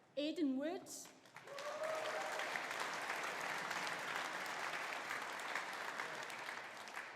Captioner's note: audience applauding; audience cheering